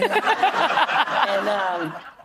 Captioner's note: laughter